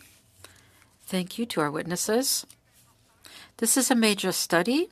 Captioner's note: speaking French